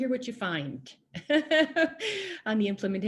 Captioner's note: laughing